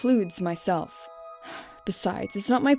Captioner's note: sigh